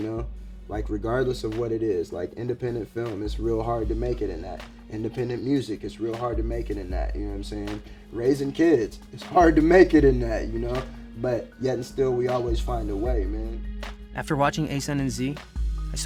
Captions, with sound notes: You know, like regardless of what it is, like independent film, it's real hard to make it in that, independent music, it's real hard to make it in that, you know what I'm saying? (laid-back hip hop music) Raising kids. (chuckles) It's hard to make it in that, you know, but yet and still we always find a way, man. - After watching Ason and Z,